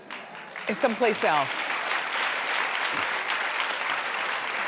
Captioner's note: audience claps